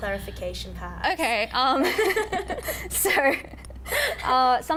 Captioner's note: both laughing